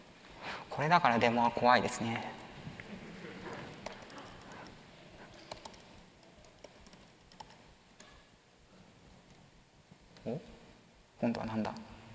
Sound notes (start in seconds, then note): 3.6 silence